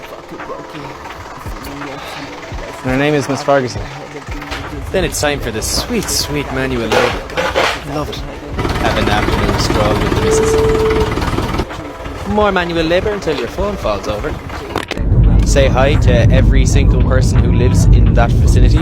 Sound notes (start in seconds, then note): 8.4 motor sounds